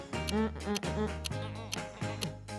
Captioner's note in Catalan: Tic-tac